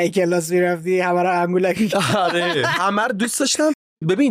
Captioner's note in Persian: خنده